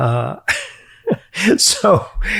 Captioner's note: chuckles